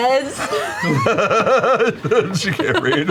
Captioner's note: laughter